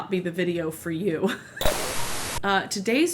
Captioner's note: static sound